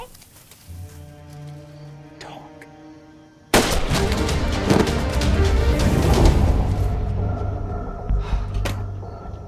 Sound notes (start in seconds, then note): 3.6 gun banging; 3.6 energetic music